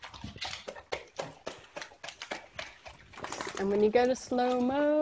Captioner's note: dog gobbling